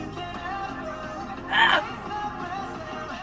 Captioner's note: yells